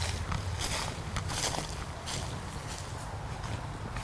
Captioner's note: leaves crunch